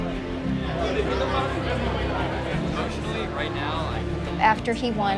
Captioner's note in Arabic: ثرثرة